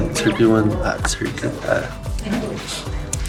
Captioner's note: stuttering due to nervousness